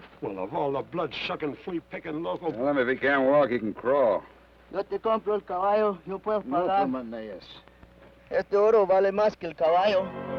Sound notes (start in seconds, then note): 6.8 Ben speaks foreign language